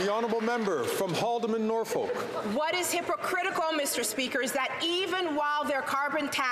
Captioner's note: some Applause